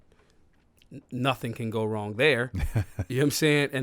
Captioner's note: laughs